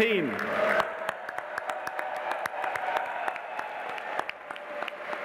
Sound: audience applauding

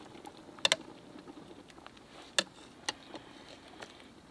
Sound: water boiling; pot clanking

